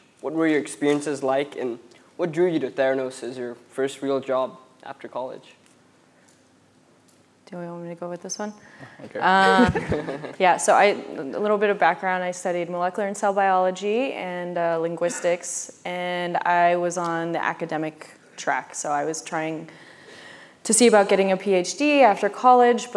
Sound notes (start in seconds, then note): 9.0 laughs